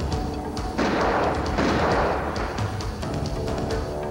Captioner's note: guns firing